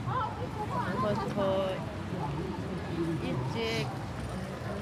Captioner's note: speaking Korean